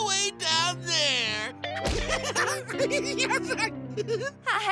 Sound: giggling

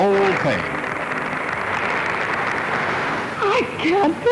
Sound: applause

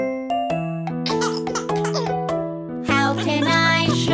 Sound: toddler laughing

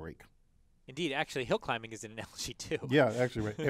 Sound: laugh

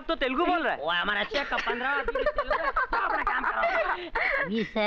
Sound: laughs

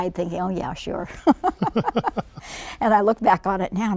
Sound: laughing

